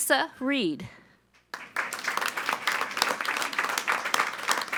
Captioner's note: all applauding